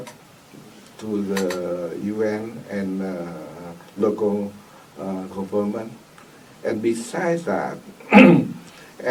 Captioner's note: coughs